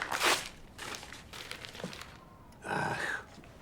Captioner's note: paper tearing